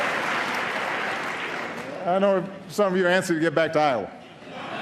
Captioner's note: applause; laughter